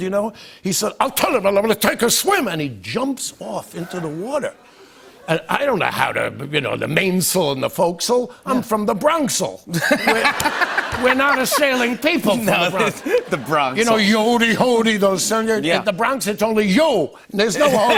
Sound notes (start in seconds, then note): 9.7 laughter